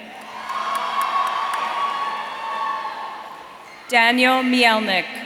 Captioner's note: audience cheering